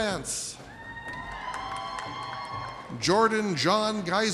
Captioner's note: audience cheers